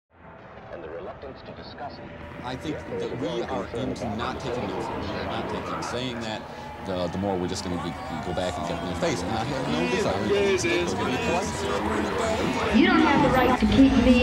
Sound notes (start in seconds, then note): 2.2 mix of many voices speaking out